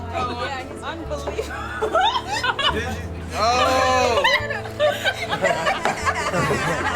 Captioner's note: laughter